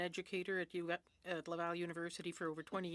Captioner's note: speaking French